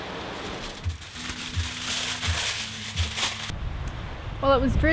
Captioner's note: aluminium foil crinkles